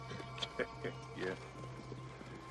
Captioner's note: laugh bitterly